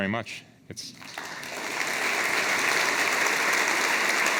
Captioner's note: audience applauding